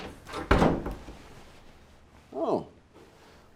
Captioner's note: door thudding